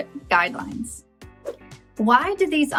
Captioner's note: whooshes